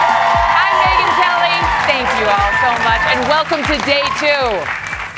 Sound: applause

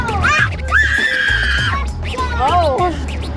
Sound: child screeching

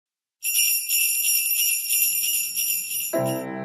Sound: sleigh bells

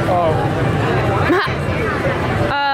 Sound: laughs

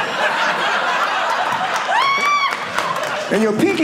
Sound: audience laughing

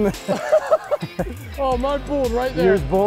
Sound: both laughing

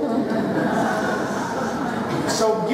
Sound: laughter

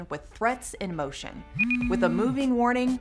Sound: phone vibrates and rings

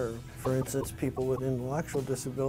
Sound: computerized voice

